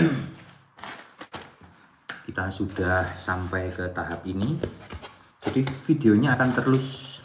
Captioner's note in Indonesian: berdehem